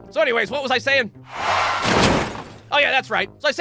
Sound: car crashes

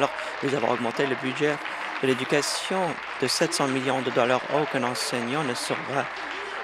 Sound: applause

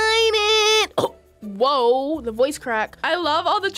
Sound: coughs

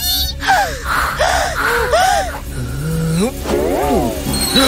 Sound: puffs

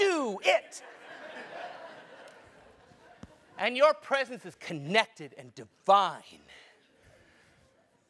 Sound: laugh

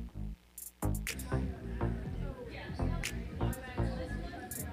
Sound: crowd chattering

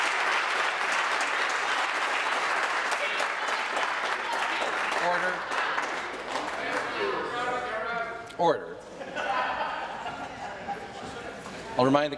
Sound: applause

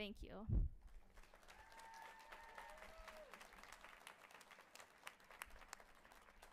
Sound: audience cheering and applauding

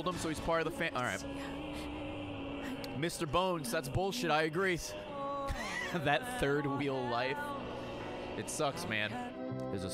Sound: laughs

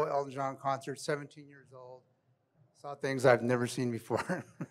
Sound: laughs

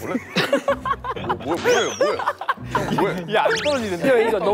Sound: burst into laughter

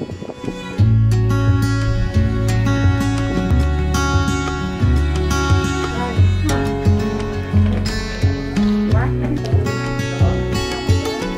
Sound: indistinct chatter

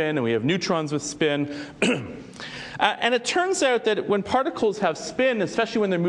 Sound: cough

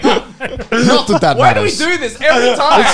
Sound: men laughing

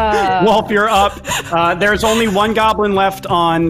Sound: laughing

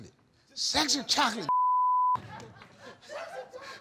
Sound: beep

